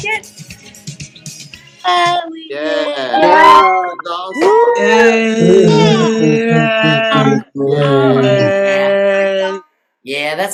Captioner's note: cheering